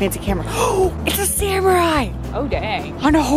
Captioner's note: gasp